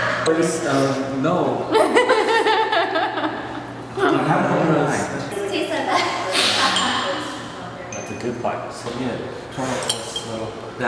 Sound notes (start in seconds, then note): 1.7 laughter; 5.9 laughter